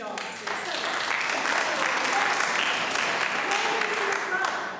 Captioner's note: audience applauding